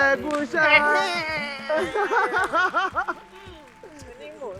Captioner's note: laughs